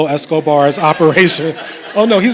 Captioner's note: laughter